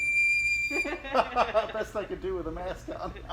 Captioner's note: both laughing